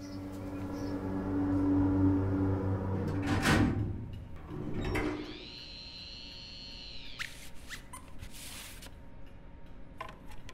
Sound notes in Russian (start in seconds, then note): 4.8 Жужжащие звуки